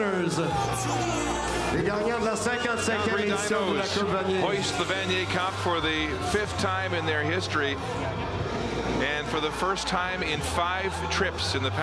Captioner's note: cheering and Applause